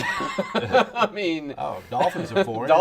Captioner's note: laughing